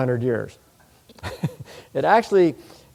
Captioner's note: chuckles